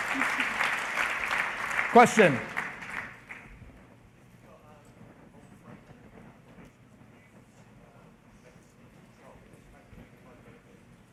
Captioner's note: applause